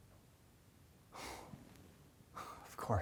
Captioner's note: sigh